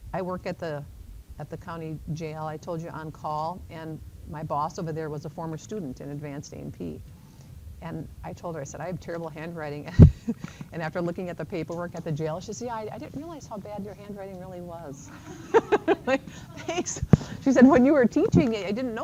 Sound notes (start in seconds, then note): 9.9 chuckles; 15.0 chuckles; 15.1 laughter